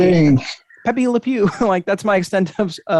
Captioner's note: chuckles